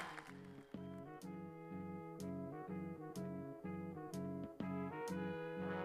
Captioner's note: applause